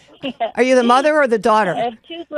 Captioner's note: laughs